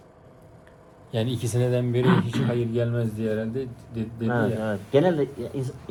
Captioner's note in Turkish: boğazını temizler